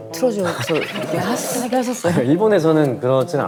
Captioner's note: hahaha